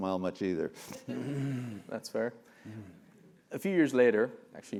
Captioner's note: laugh